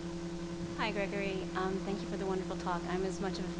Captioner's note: voiceover